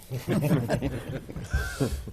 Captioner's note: laughter